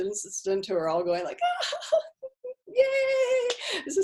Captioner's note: chuckles